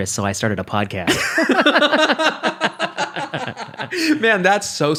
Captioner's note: laughing